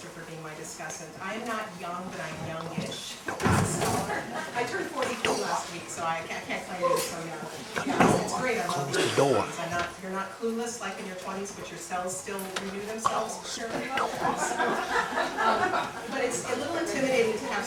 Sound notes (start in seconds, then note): 14.1 laughter